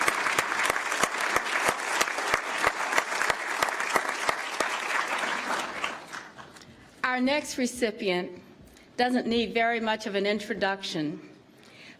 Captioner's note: applause